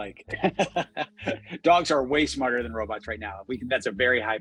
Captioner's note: laughs